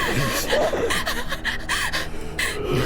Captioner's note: creature gurgling; hyperventilating